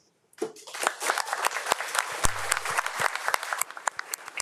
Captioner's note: crowd applauding